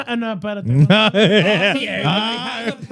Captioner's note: laughing